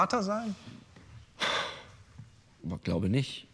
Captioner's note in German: Er seufzt